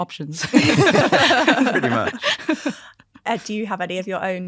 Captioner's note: all laughing